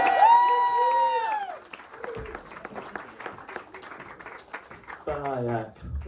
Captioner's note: audience claps and cheers